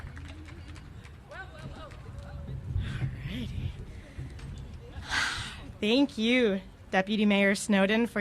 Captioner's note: applause